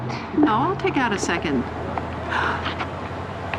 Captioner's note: gasps